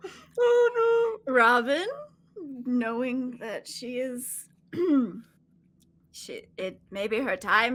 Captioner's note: clearing throat